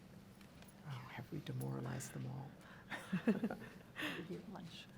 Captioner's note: laughing